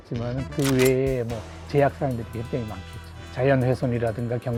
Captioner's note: camera shutter sound effect